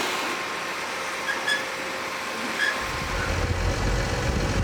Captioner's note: trailer squeaking